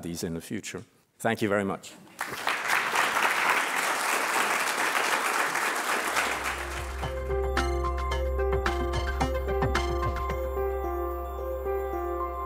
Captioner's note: applause